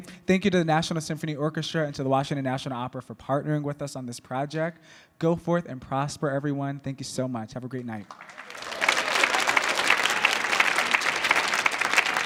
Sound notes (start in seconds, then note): 8.0 audience clapping